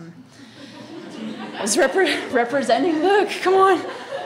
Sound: audience laughs

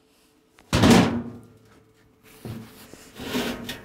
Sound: slamming

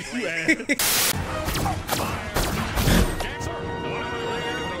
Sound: electrical sounds

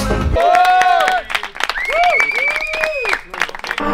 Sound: cheering

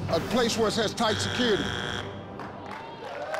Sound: buzzing; crowd cheers

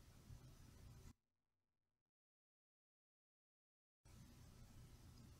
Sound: silence

